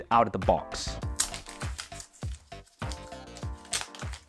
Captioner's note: plastic crackling; upbeat music